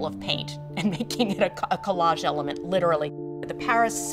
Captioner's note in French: rires